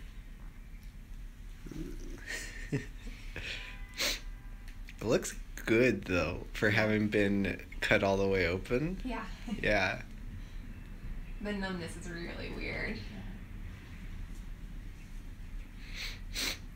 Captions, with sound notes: eww [laughs] it looks good though for having been cut all the way open yeah [laughs] the numbness is really weird.